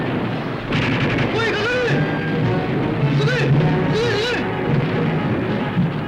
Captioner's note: speaking japanese